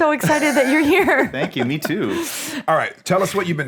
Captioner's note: laughing